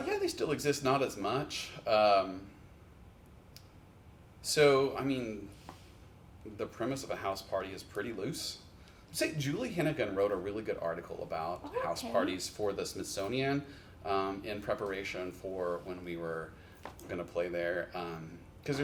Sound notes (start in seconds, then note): none